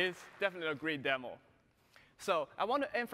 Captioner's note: applause